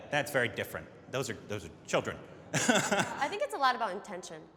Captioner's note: laughs